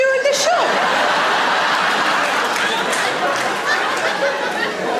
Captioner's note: audience laughs